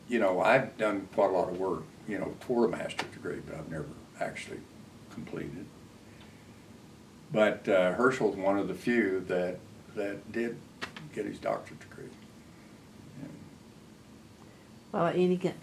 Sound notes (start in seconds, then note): none